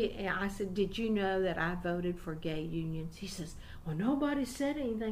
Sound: mock brusque tone

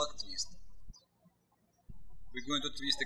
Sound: birds chirping

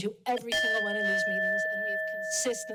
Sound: timer dings

